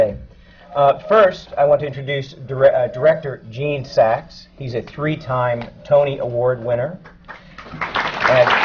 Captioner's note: applause